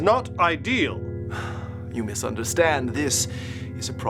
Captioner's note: sigh